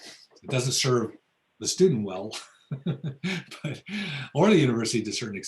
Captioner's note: laughs